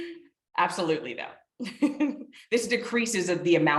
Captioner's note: chuckles